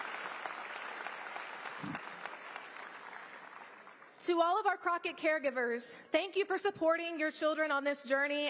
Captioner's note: applause